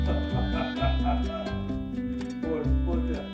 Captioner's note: laughter